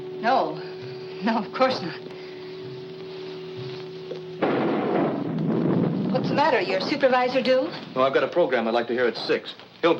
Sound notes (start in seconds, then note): 4.4 lightning cracks